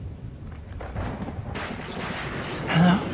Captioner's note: thunder rumbling